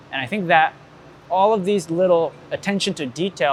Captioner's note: none